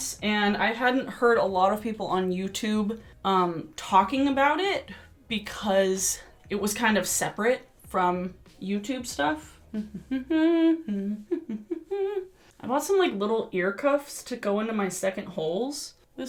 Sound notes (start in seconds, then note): 9.6 hums